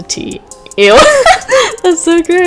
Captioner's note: laughs